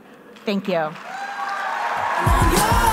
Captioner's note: applause